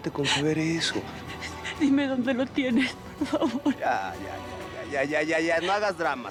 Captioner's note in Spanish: llorando